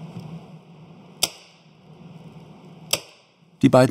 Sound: cracking

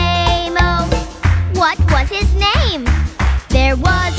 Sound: clap

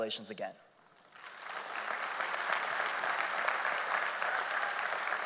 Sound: audience applauding

